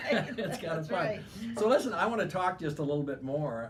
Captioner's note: laughing